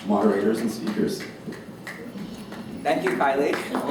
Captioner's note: applause